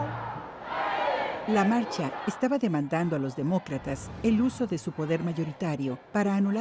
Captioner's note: speaking in foreign language